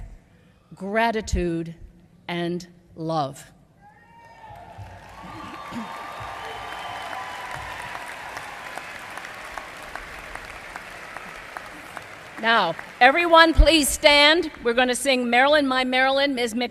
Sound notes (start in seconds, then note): 4.4 applause